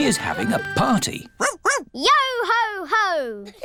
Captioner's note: barks